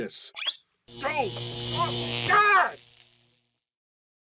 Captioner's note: electroshock